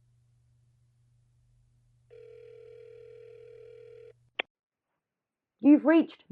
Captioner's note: phone ringing